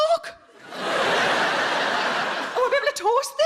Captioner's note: crowd laughing